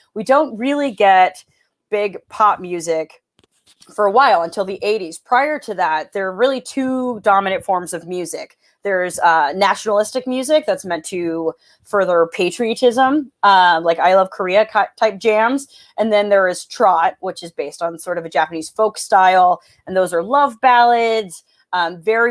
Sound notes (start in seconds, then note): none